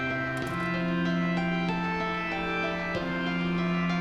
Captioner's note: door closes